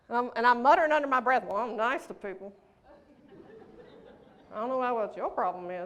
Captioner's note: laughter